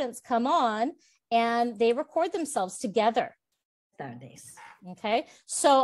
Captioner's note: student 1, Spanish